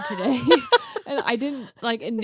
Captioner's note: both laughing